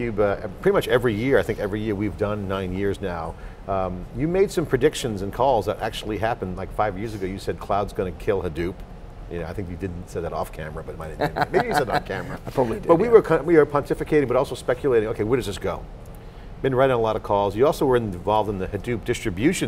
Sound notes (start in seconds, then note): 11.1 laughing